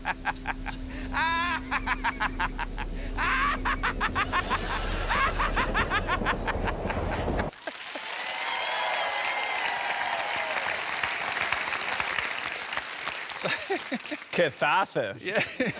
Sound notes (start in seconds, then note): 0.0 high-pitched evil laugh; 9.6 cheering and applause